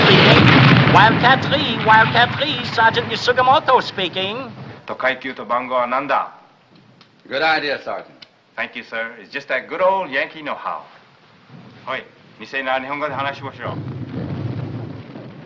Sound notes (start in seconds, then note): 4.3 speaking in japanese; 11.1 continues speaking in japanese; 12.8 explosions in distance